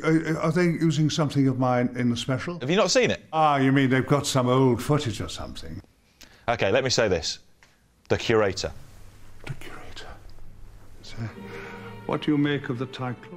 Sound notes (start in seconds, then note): 8.7 whispers